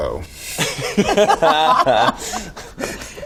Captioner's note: laughing